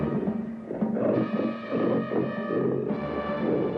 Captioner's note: growling